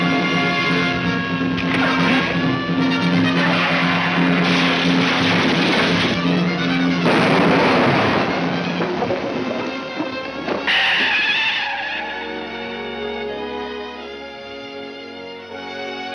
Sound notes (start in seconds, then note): 6.8 explosion roars; 10.8 tires screech; 13.4 somber music